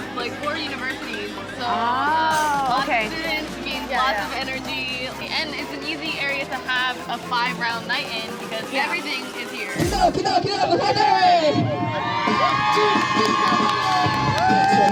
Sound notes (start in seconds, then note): 10.0 chanting in Korean; 10.8 cheering